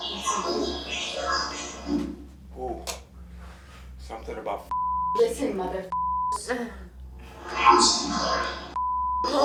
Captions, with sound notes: don't touch my shirt. - Something about (beeps) - Listen, mother (beeps). - [Disembodied Voice] Listen mother (beeps).